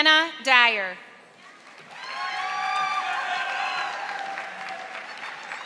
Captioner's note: audience applauding